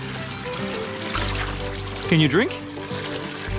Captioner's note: water splashing